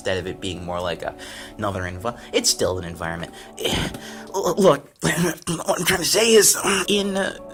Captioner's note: insane Rambling